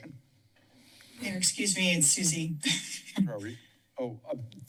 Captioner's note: giggle